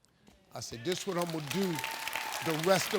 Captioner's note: audience applauding